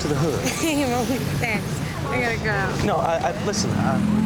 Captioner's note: chuckles